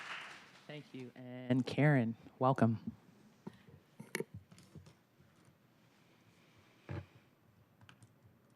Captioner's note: applause